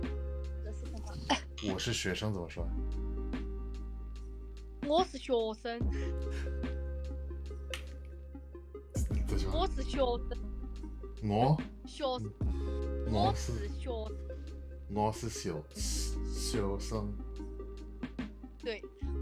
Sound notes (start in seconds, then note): 4.3 speaking Dialect